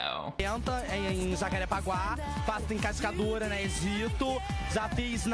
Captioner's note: speaking in a foreign language